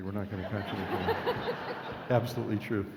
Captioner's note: laughing